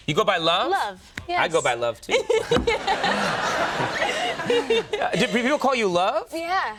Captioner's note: Jennifer laughs